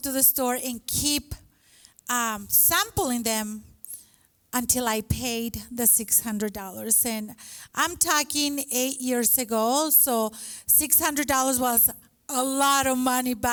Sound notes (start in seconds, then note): none